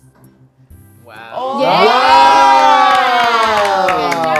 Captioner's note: claps